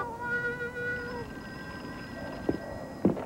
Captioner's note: telephone rings